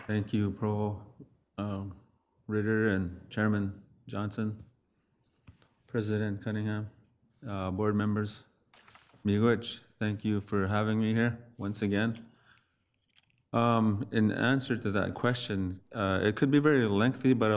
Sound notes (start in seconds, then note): 9.3 speaks foreign language